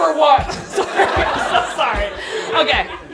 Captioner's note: audience laughing